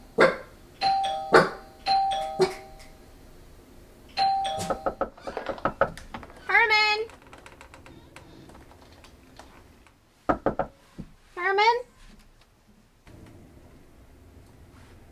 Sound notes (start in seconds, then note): 0.1 dog barks; 0.8 door bell rings; 4.2 doorbell rings, followed by knock on door; 10.3 knock on door